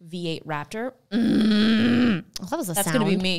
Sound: moaning

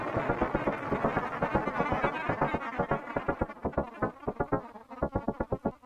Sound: the granulated voice fades out

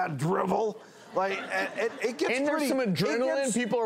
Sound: laughing

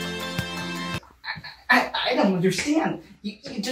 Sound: brian stutters

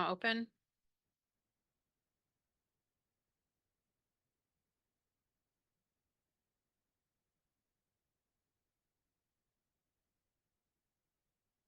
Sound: silence

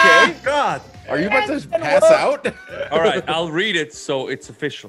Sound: laugh

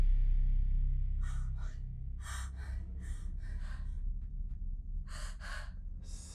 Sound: heavy breathing

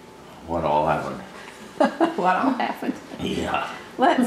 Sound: laughter

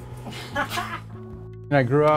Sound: interviewer laughs

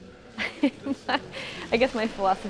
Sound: laughing

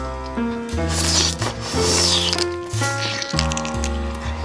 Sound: eating sound

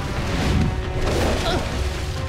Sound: grunting

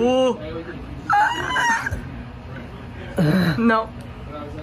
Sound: screams

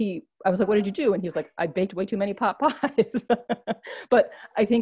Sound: laughs

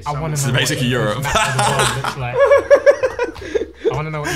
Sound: laughing

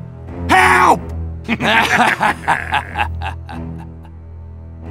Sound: evil laughter

